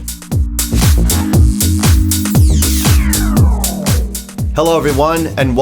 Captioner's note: electric static humming